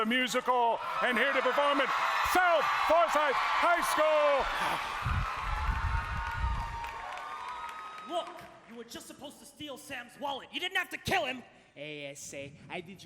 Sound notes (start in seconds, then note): 4.9 applause